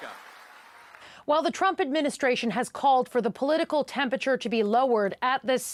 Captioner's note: applause